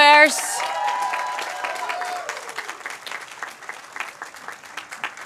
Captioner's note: cheers, applause